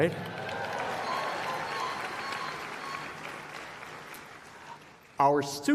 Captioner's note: applause